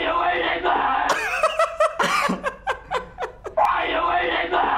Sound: laughs; chuckles

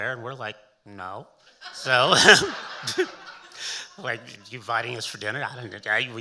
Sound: laughs

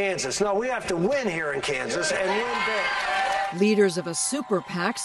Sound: cheering and applause

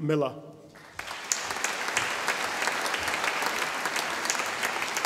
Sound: audience applauding

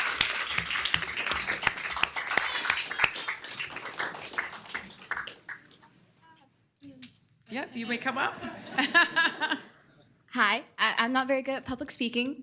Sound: applause

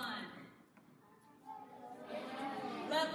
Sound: students mumbling quietly

